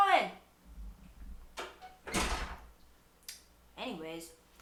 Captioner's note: door slams